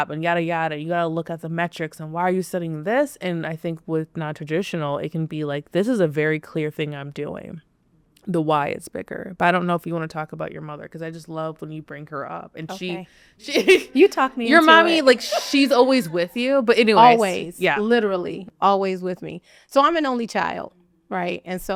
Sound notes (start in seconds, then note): 13.4 laughs